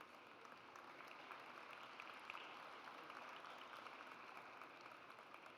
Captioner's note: audience applauds